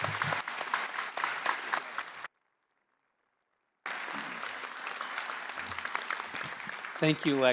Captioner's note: applause